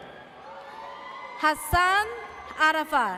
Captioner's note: audience cheers